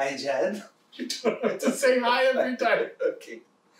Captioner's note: laughing